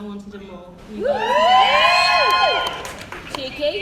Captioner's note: cheering and Whooping